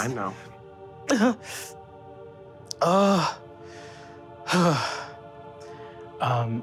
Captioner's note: sobs; sighs